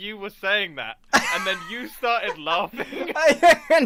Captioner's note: laughs harder